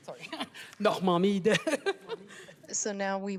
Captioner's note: speaking French